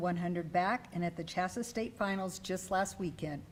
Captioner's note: none